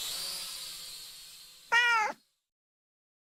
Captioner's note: cat meows